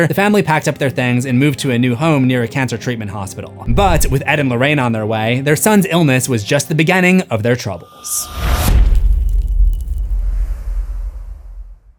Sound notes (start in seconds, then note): 8.3 impact